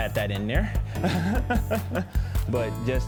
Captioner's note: laughs